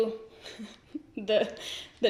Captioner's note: giggles